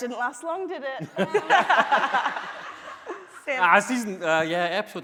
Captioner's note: laughing